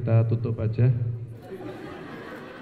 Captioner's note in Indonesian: tertawa